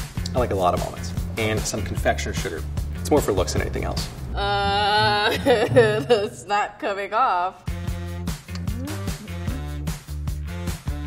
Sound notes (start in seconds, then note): 4.4 laughs; 7.6 upbeat music